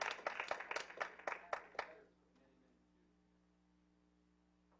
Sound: clapping

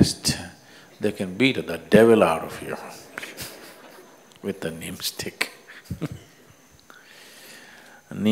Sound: laughs

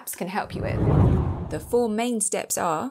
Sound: air swooshing

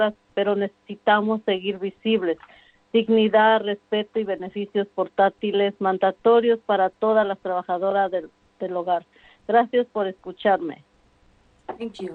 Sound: speaking spanish

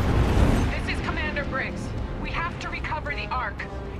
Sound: radio

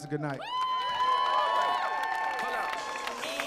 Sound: cheering; hip hop music

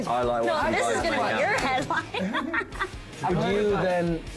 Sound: laughs

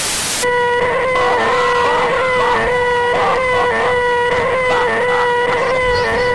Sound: scream

